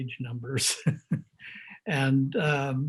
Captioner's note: laughs